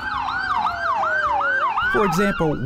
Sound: ambulance sirens wailing

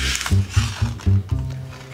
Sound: paper rips

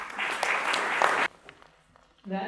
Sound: applause

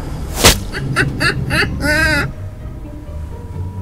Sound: laughing

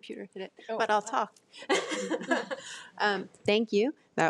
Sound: person laughing

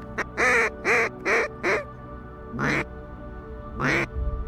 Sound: duck calls

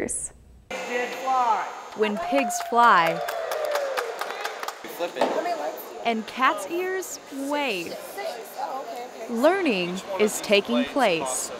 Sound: crowd cheering

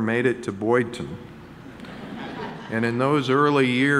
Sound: audience laughing

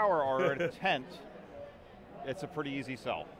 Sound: laughs

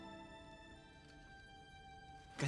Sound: speaking in mandarin

